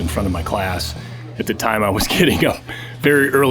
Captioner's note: chuckling